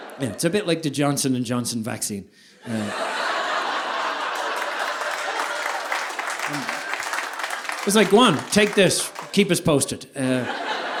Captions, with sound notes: It's a bit like the Johnson and Johnson vaccine. (audience laughing) (audience applauding) It's like go on, take this, keep us posted.